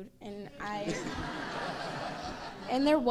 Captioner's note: crowd laughs